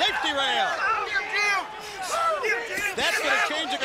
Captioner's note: crowd cheering